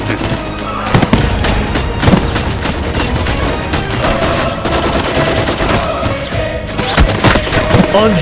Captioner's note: gunshots